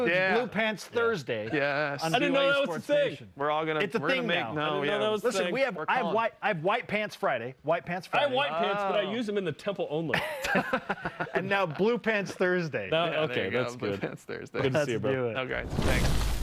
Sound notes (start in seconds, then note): 10.2 laughing